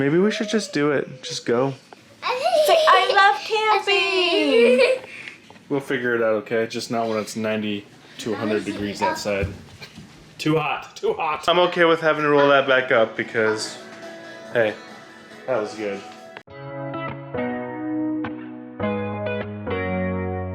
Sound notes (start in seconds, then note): 2.2 laughing; 9.4 chatters